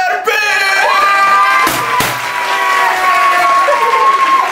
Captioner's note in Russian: кричит